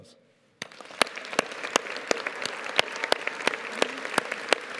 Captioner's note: audience applauding